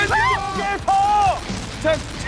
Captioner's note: shrieks